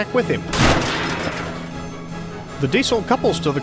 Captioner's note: wham